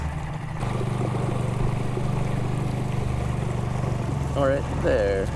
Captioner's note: engine chugging; water sloshing